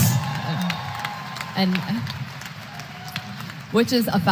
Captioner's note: applause